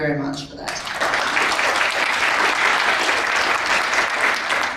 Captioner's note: crowd applauds